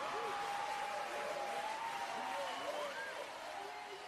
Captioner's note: crowd cheering